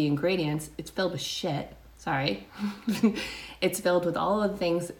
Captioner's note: giggles